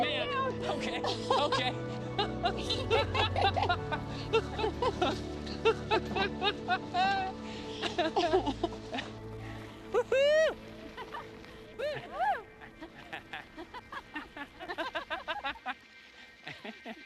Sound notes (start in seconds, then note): 0.6 both laughing; 10.0 Ted whooping; 11.7 laughing